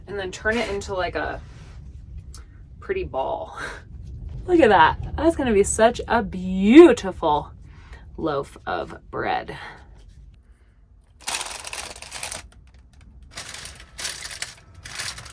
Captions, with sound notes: and then turn it into like a pretty ball. Look at that. That's gonna be such a beautiful loaf of bread. (paper crinkling)